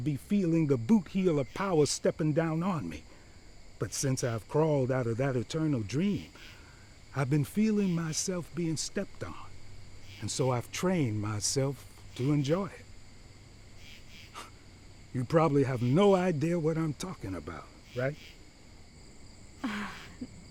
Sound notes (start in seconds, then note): 14.0 scoffs; 19.6 sighs